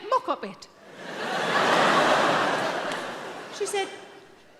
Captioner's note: audience laughing